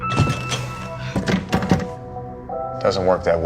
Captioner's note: contraption clattering